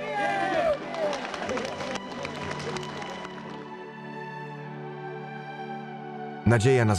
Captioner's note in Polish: okrzyk tłumu; oklaski, muzyka